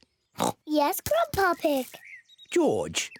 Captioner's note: oinks